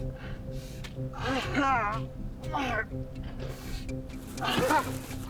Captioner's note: Jim groaning